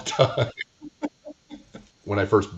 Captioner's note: laughing